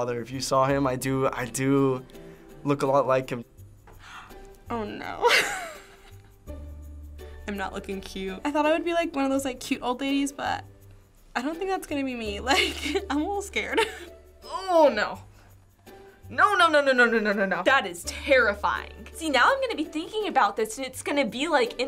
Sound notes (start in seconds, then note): 3.9 gasps; 5.5 laughs